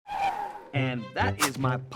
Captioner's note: scooter screeches